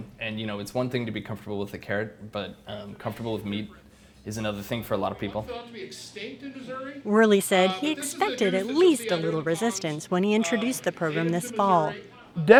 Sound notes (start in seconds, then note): 7.1 voiceover